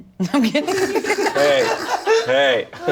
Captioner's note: all laugh